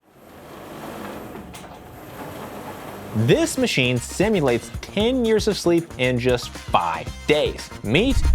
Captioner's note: machine whirs